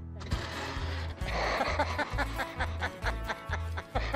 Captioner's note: laughs